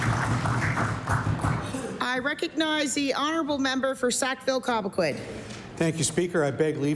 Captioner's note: applause